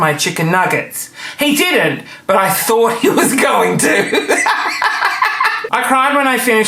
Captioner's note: laughing